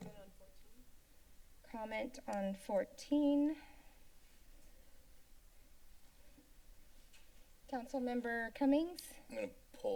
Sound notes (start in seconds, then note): 0.1 pause; 3.7 silence